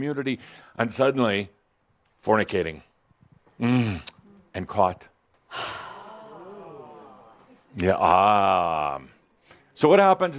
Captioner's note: sighs and audience says “Ahh”